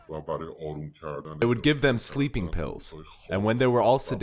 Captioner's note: through translator